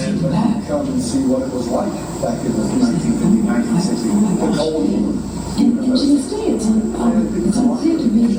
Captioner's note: male background voice in English